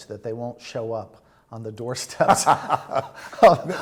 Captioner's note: laughter